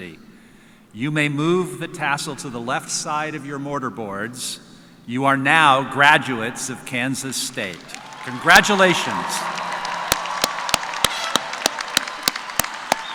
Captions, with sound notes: UNIVERSITY. YOU MAY MOVE THE TASSEL TO THE LEFT SIDE OF YOUR MORTAR BOARDS, YOU ARE NOW GRADUATES OF KANSAS STATE. CONGRATULATIONS! [CHEERS AND APPLAUSE]